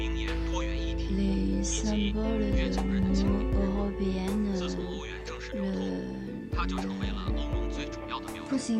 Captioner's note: French